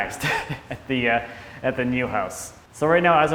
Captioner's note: laughing